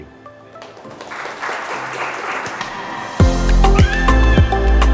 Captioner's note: audience applauds; upbeat electronic music